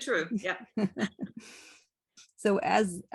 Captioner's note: laughs